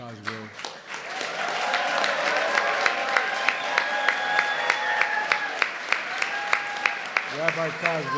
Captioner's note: applause